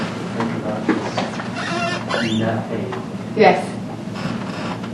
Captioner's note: creaking